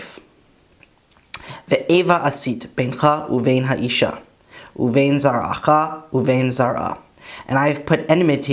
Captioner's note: Hebrew